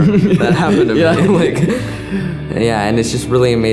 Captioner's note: laughs